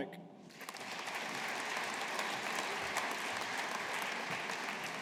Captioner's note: audience applauding